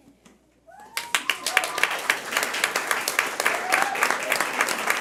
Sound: audience applauding

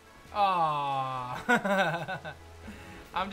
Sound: laughs

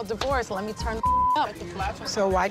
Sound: beep

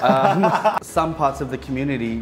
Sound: laughs

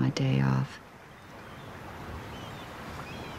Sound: none

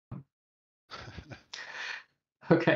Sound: laughter

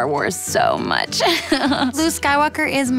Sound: laughs

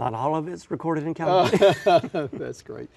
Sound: laughter

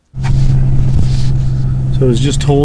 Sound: engine humming

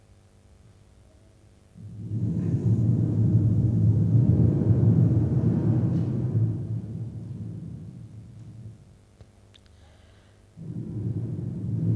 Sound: is blowing in the microphone 7 times

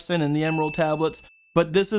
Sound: bell Dings

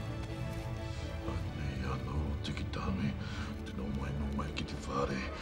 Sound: non-english speech

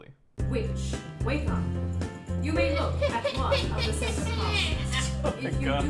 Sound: cheerful music; witch cackle

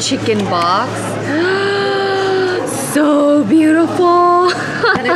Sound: gasps

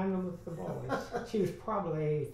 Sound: laughs

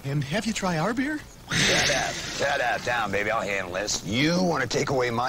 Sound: bobcat Growls

